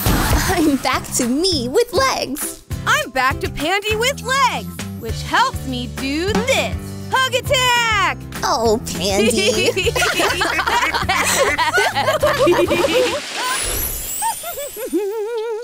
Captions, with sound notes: I'm back to me with legs. I'm back to Pandy with legs, which helps me do this. Hug attack. Oh, Pandy. [LAUGHS]